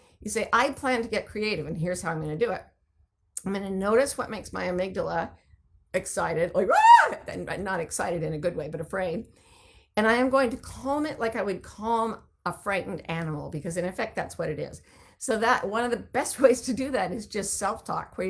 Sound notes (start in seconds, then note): 6.6 screaming